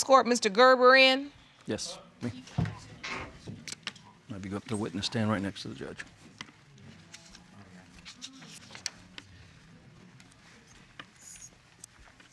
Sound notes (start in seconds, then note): none